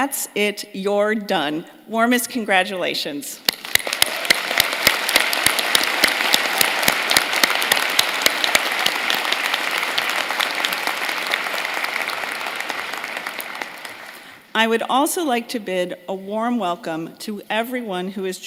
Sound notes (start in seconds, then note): 9.8 applause